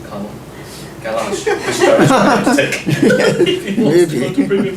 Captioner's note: laughter